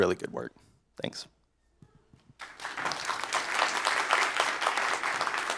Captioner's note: applause